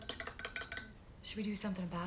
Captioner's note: spoon clinking